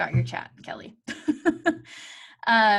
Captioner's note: chuckles